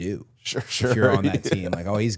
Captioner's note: laughs